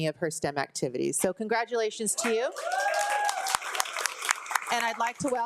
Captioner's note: group cheering